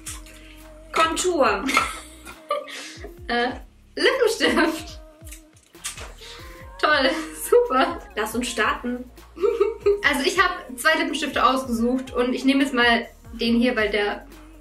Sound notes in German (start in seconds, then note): 1.6 lacht; 9.3 kichert